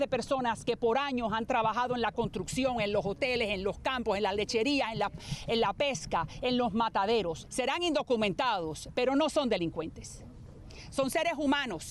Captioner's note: speaking spanish